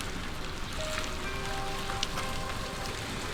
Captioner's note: tires chew